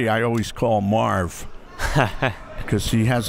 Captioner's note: laughs